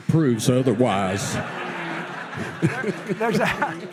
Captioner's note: audience laughs